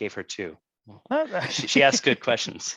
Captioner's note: laughs